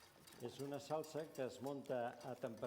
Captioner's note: non-english speech